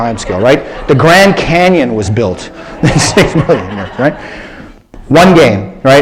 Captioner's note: laughter